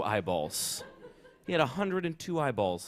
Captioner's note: laughter